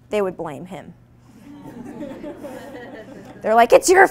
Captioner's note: audience laughing